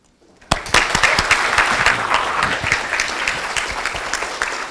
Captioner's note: audience applauds